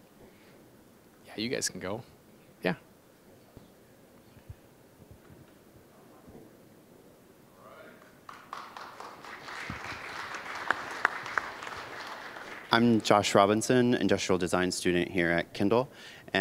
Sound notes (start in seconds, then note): 8.0 applause